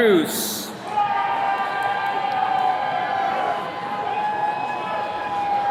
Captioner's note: attendees cheering